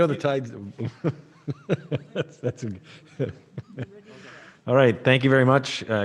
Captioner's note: laughing